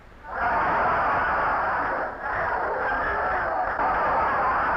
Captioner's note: audience laughing